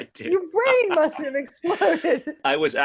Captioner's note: laughs